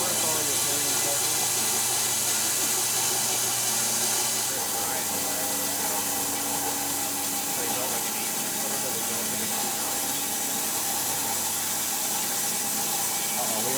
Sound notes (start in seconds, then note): 9.4 machine whirring